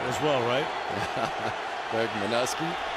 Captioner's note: laughs